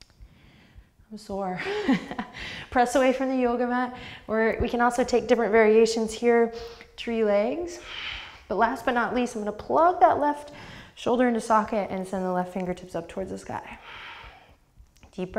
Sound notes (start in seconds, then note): 2.0 laughs